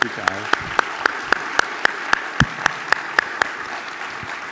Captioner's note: applause